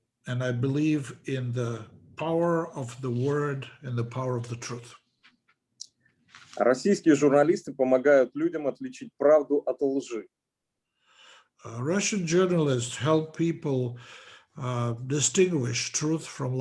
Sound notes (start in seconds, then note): 6.9 speaking Russian language